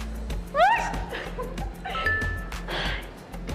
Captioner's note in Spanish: grita